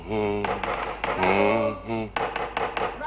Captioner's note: humming; knock at door